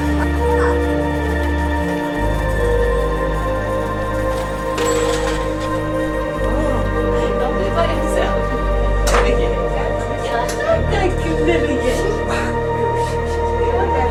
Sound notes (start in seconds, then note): 8.1 people chattering; 8.1 soft orchestral music